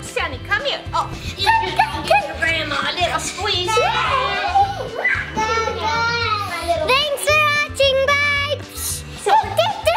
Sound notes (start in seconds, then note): 5.0 screams